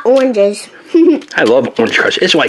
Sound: laughs

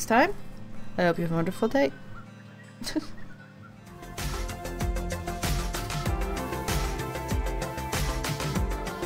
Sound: laughs

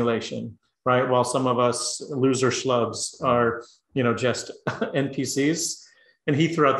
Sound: laugh

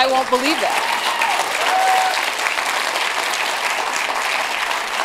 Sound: applause

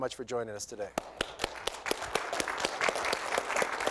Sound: applause

